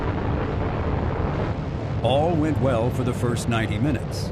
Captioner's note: rocket engines roaring